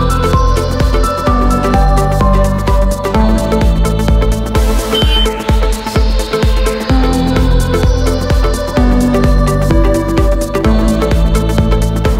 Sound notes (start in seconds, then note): 4.8 honk